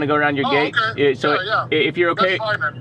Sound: man Over Phone

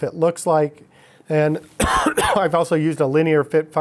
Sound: coughing

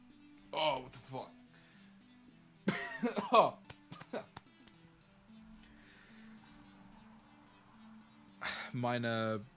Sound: cough

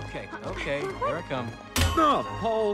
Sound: metal clang

